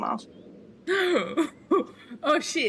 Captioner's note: gasp